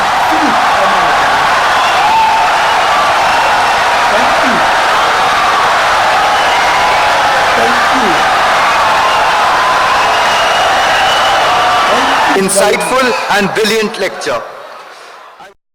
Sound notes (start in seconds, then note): 0.0 wild applause and cheering for 17 seconds